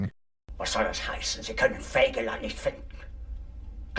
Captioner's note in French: parlant un anglais simple